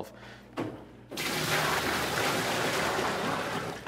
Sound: water splashes

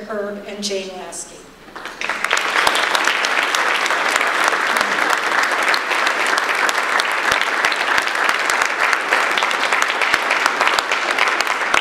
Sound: audience applause

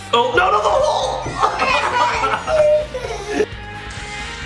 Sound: laughing

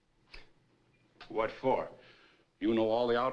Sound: scoffs

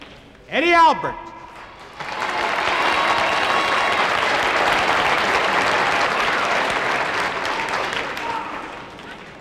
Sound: audience applauds

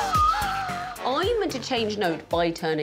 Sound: swanee whistle whistling; upbeat music

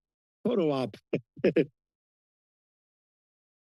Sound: chuckling

